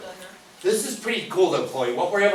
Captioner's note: voiceover